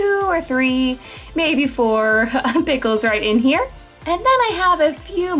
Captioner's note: chuckling